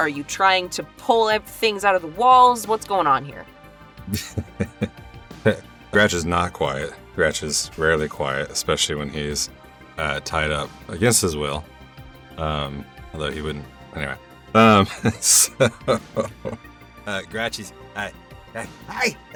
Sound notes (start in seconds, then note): 4.0 chuckles; 14.6 chuckles